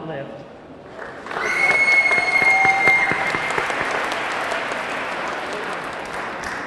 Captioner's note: audience clapping; audience cheering